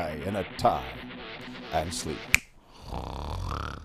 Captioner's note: snap!